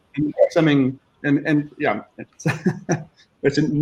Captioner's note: chuckling